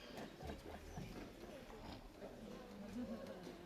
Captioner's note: women laughing